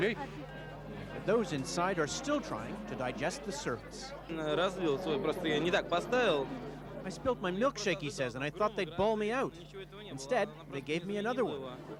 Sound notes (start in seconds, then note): 6.3 speaking in Russian